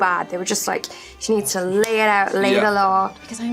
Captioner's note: hands smacking